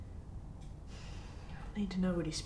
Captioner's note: sighing